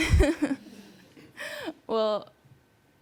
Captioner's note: laughs